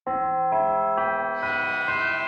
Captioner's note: bell chimes